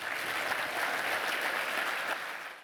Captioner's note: applause